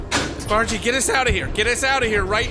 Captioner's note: sound of a hangar door closing